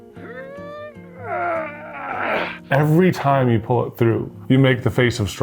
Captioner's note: groans